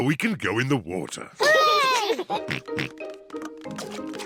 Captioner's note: peppa and george cheer